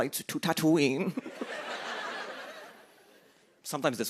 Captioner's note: laughter